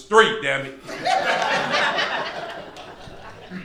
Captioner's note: crowd laughter